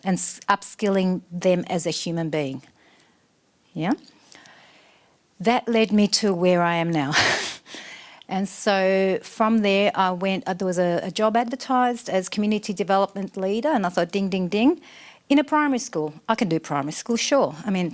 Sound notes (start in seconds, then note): 7.1 laughs